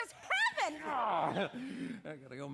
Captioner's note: joe grunts excitedly